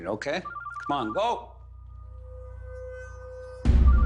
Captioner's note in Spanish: Suena el celular